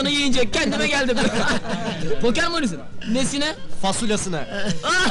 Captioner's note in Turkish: gülerler